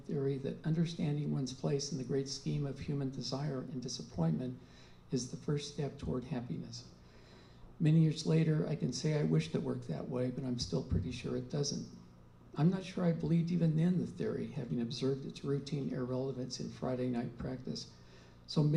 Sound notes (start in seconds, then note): none